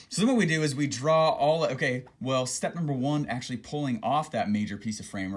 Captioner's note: none